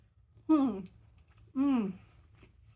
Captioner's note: happy mouth noises